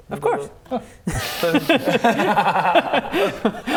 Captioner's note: manipulated laughter